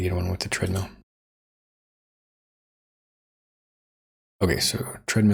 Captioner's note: silence